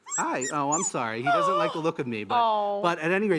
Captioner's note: puppy whines; gasps